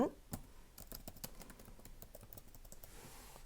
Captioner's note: keyboarding